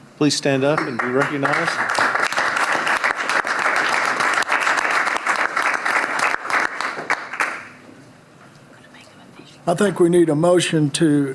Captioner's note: applause